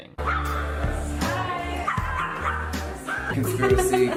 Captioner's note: dogs barking